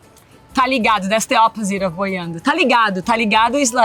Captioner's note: speaks Portuguese